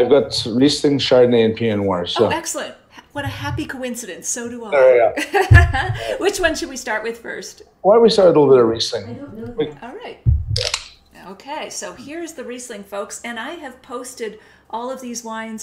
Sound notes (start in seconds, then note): 4.9 laughs; 10.6 wine cap twisting